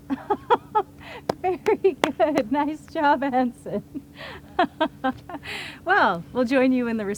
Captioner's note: laughs